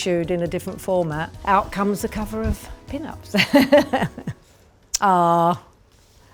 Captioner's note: laughs